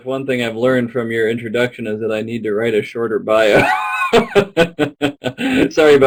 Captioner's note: laughs